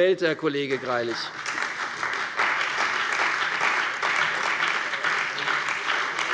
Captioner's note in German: Beifall bei der CDU und dem BÜNDNIS 90/DIE GRÜNEN